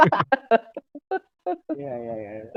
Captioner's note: laughs